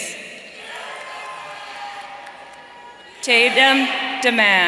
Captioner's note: audience cheering